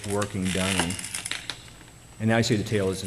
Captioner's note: paper crackling